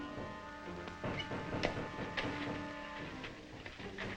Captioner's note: men banging